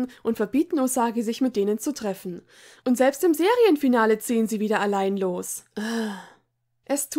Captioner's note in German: seufz